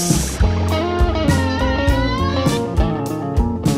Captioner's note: Wednesday scream